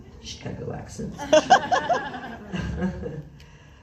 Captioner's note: laughs